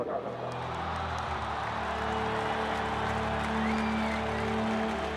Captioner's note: cheering and applause